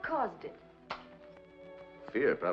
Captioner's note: lighter clicks